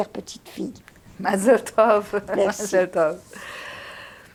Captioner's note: laughing